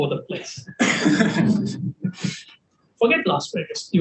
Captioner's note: panelists laughing